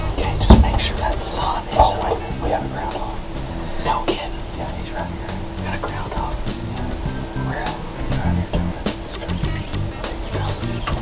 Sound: whispering

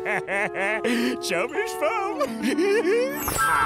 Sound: laughing

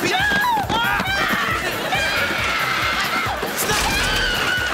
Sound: screaming

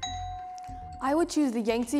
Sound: bell dings

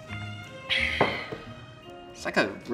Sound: classical music; sighs

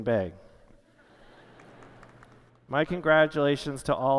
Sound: laughter

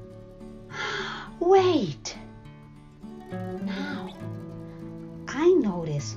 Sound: gasp

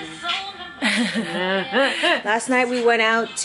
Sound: laughter

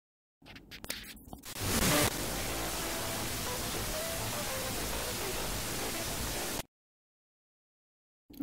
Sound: radio Signal Sound

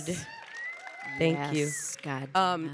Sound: audience applauding and cheering

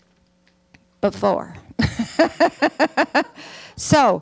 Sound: Hustvedt laughs

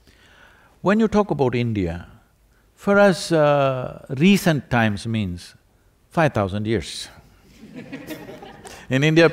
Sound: laughter

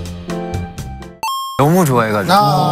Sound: arcade game coin noise

